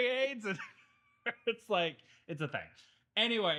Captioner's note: laughing